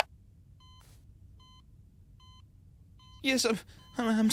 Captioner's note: heart monitor beeping